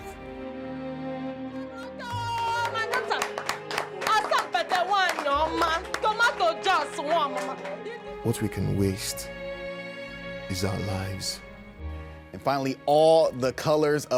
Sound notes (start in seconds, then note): 6.3 woman speaking in foreign language